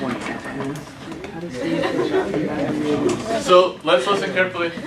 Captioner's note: students talking